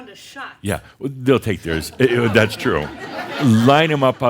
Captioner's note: laughter